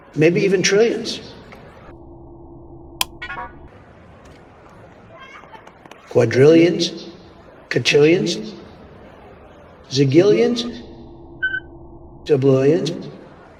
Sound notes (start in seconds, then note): 3.0 'numberwang' switch flips; 11.5 beeping